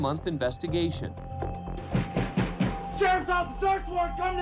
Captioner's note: pounding on door